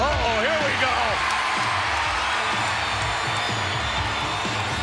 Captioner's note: audience cheering